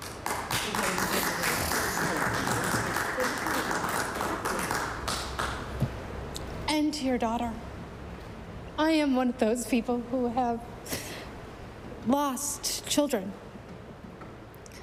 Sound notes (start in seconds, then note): 2.9 applause